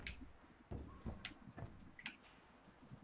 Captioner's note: none